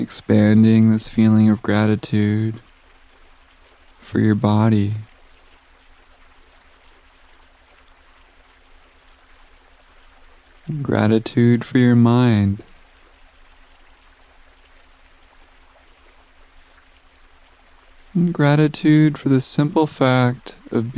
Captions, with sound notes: Expanding this feeling of gratitude for your body, (water gushing) and gratitude for your mind, (water gushing) and gratitude for the simple fact